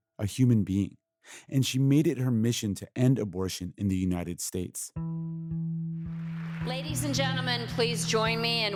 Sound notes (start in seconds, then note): 5.1 soundbite of archived recording